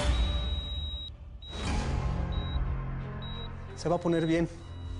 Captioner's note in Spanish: Bip del monitor